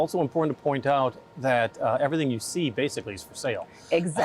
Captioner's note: laughing